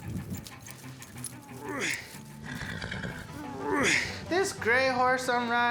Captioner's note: grunting, horse blusters